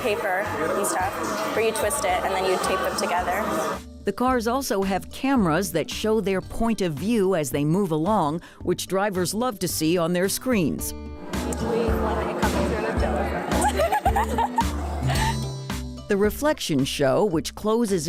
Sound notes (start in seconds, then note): 13.4 laughter